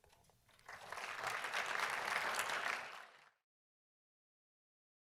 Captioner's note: audience applauding